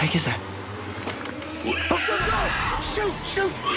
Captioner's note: screeching; creature screeching